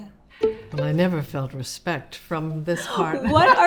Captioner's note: laughs